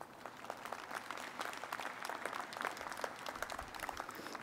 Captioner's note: crowd applauding